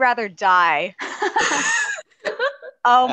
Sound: laughs

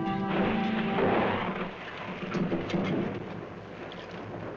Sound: thunder rumbling

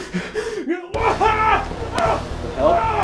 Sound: screams in pain

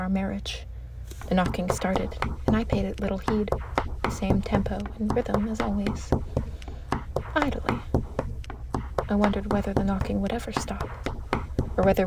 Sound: knocking starts

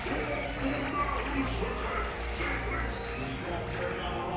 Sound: Zurg speaks French

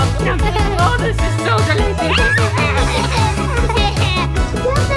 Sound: children squealing

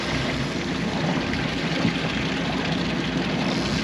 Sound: splashing; reel cranking

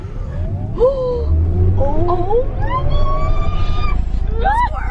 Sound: squealing

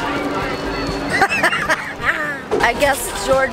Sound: laughing

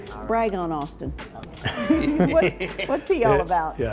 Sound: both laughing

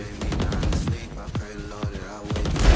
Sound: gun bangs; guns firing

